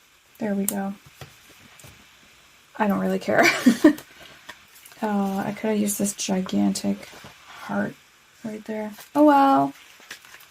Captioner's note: laugh